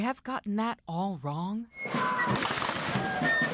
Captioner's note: loud gunshots